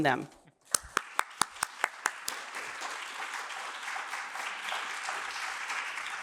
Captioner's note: applause